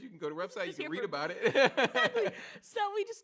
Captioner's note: laughs